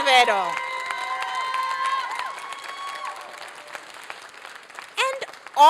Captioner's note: applause and cheering